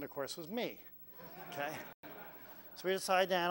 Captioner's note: laugh